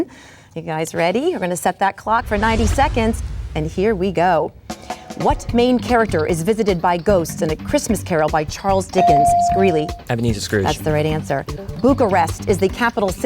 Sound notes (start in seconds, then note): 9.0 bell dings